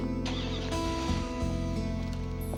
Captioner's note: van engine starts